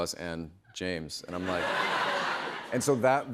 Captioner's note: laughter